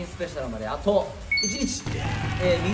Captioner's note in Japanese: 効果音：歓声・拍手